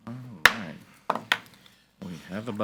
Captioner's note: gavel bangs